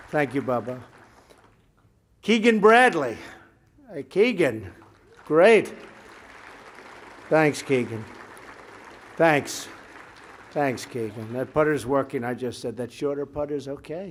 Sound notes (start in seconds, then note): 6.3 applause